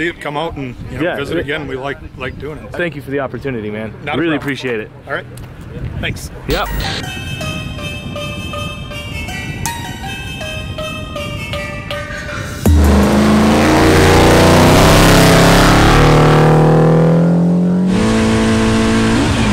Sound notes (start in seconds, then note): 6.5 electronic music; 12.6 engine roaring